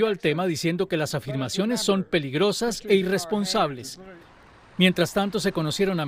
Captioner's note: habla en ingés